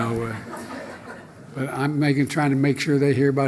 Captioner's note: laughter